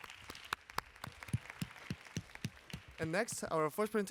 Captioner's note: applause